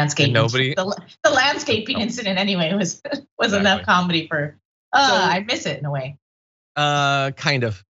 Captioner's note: laugh